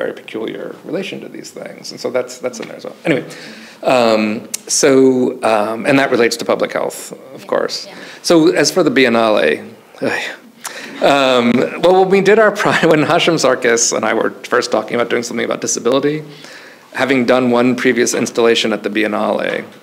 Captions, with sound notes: and how I have a very peculiar relation to these things. And so, that's in there as well. Anyway. So, and that relates to public health, of course. - Yeah. Yeah. - So, as for the Biennale, (sighs) well, when we did our, (chuckles) when Hashim Sarkis and I were first talking about doing something about disability, having done one previous installation at the Biennale,